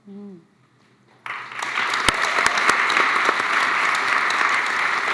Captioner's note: applause